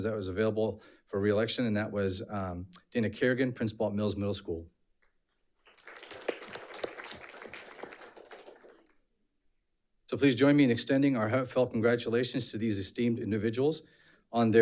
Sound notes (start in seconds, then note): 5.6 audience applauds